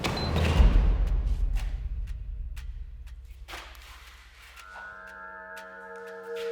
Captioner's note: light dramatic music; timer beeping